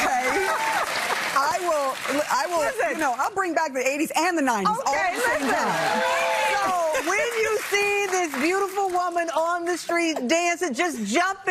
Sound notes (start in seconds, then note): 1.9 audience clapping